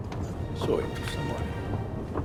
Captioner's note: man speaks in foreign language